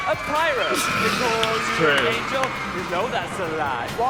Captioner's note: laughing